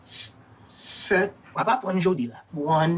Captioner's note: speaking in Creole; character speaking in Creole